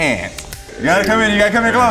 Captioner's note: snapping